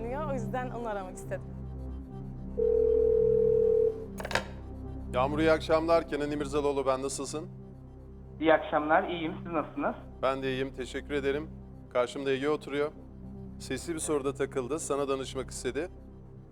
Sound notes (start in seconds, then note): 2.5 ringing